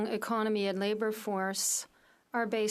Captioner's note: speaking French